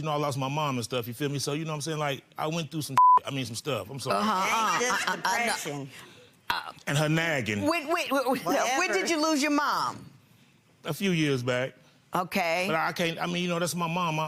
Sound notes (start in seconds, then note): 3.0 beeps; 8.8 laughing